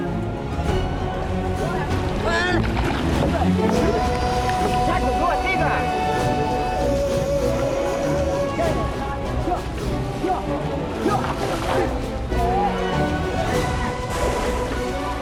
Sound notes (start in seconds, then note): 0.1 epic music; 1.9 speaking Indonesian